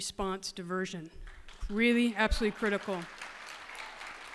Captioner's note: applause